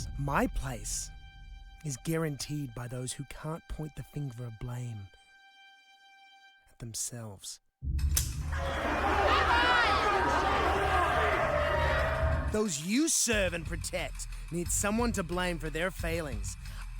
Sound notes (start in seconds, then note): 8.2 gun snaps; 8.4 crowd jeers